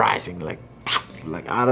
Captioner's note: exclaims